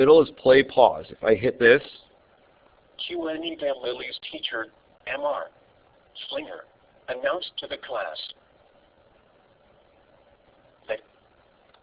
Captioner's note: computer reading